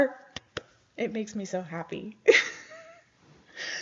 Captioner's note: chuckles